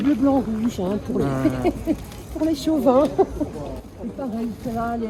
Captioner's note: laughs